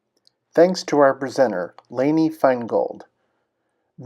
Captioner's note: voiceover